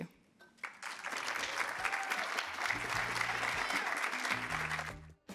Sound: audience applauding and cheering

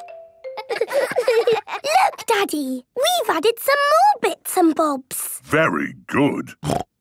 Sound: laughter

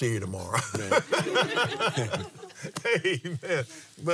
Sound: laughs

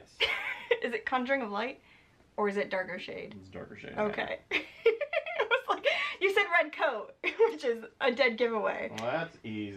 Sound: giggling

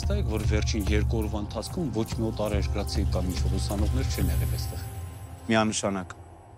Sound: Zhozef speaking in foreign language

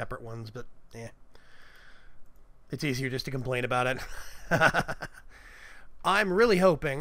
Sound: chuckles

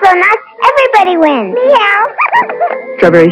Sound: laughter

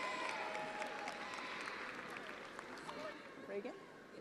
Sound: attendees applauding

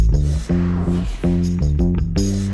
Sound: upbeat music; whooshing sound

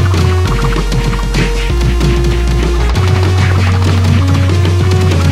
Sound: hammering sounds

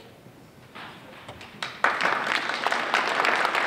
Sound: applause

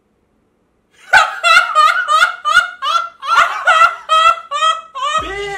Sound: laughing hysterically

